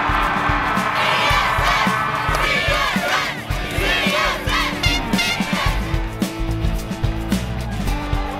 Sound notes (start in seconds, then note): 0.0 C-S-S chanting